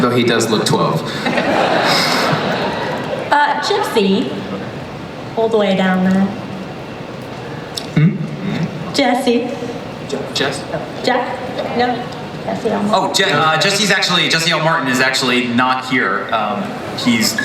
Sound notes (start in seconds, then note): 1.2 everybody laughs